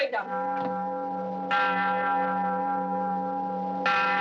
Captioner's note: tolling